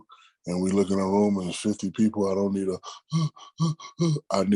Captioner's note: panicky panting